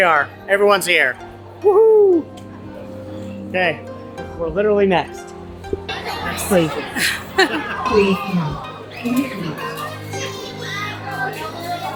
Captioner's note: laughter